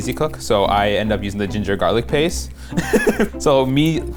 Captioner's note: laughs